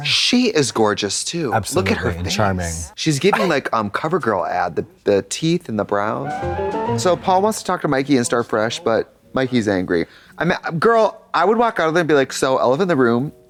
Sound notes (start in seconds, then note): 6.4 bright chime